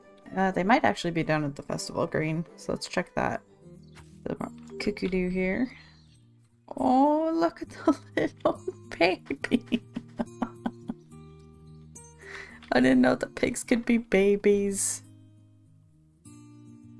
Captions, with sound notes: Uh they might actually be down at the festival green, So let's check that. Some cuckoo dew here. Oh look at the little baby *laughs* I didn't know the pigs could be babies!